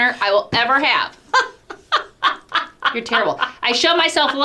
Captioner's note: laughing